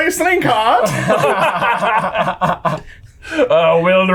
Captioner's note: laughing